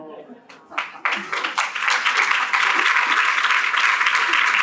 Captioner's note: applause